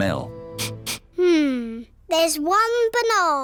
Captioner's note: sniffs